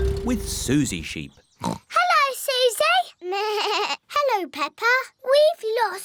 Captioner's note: oinks; bleats